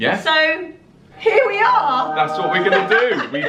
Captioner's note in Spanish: campanadas celestes